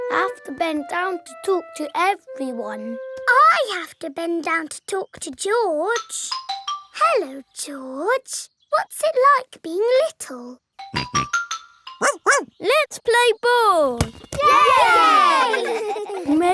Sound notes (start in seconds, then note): 10.8 snorts; 12.0 barks; 14.4 all cheering and laughing